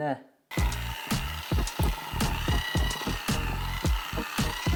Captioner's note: electric whisk whirring